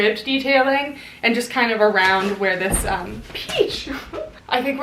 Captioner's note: giggles